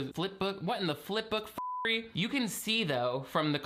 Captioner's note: beep